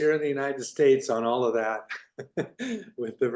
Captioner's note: laughs